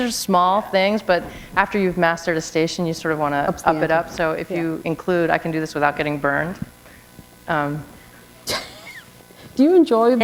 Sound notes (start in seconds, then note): 8.4 chuckle